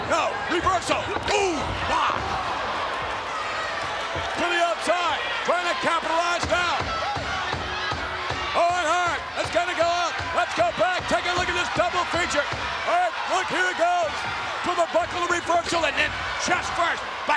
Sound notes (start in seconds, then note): 2.9 spectators cheering; 6.9 spectators cheering